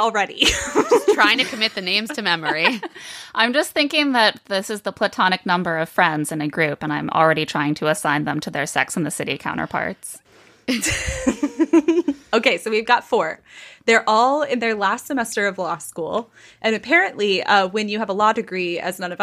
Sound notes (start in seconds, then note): 10.8 laughing